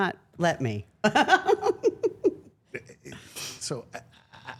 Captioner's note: Steph laughing